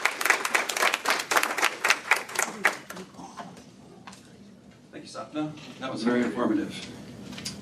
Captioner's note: applause